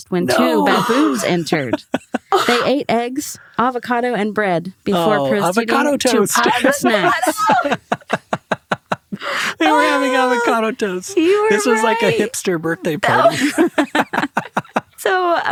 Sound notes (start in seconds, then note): 0.2 group laughs; 6.0 laughs; 14.2 group laughs